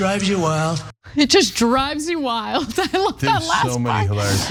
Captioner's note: laugh